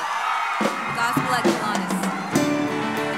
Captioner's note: crowd cheering